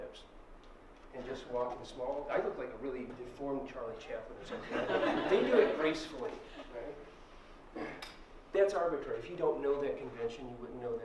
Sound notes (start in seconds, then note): 4.4 laughter